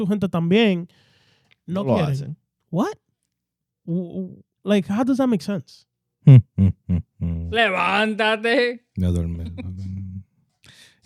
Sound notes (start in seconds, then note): 8.6 speaking In Foreign Language; 9.1 laughing